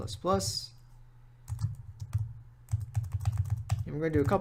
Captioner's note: typing